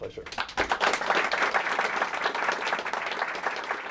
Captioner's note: applause